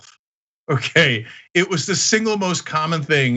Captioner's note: laugh